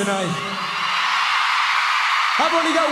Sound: crowd cheers

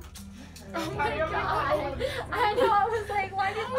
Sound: cries

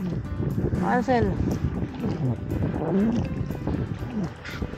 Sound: strong wind & busy music

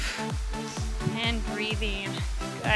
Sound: breaths

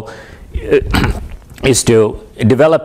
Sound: cough

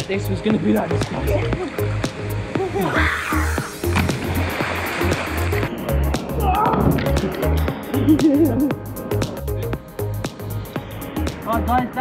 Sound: music and splashes of people landing in the water

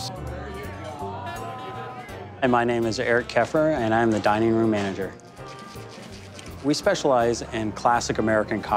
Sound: none

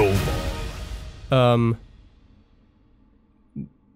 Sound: normal voice

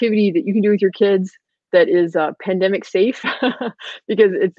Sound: laughing

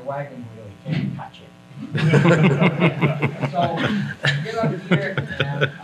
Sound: everyone laughs

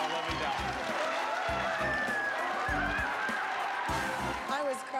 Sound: cheering

